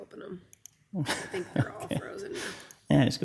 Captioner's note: laughing